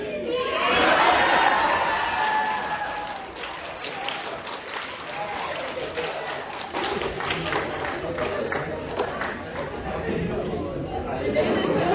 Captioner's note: laughter and people shouting "C!"; screaming; more laughter